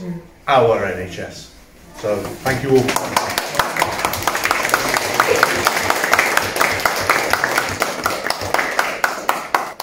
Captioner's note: applause